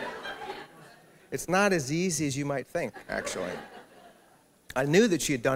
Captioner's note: laughter; laughter